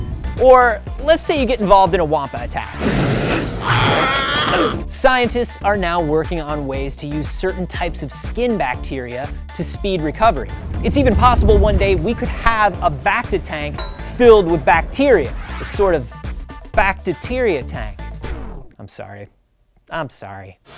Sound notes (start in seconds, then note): 3.1 Wampa roar